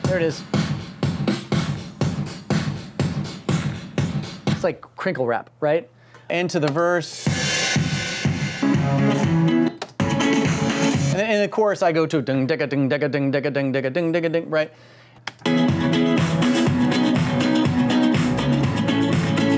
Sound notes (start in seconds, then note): 0.0 digital drum clapping; 7.1 cymbals clashing, musical beats; 12.7 mimicking guitar; 15.4 beatful music continues